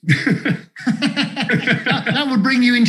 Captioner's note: both laughing